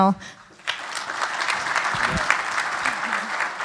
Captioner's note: applause